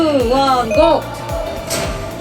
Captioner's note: heart beating